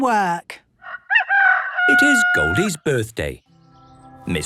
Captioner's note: rooster crowing